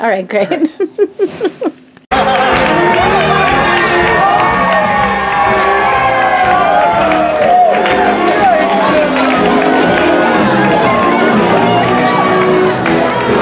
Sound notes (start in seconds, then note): 4.4 cheers